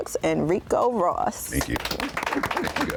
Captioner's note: applause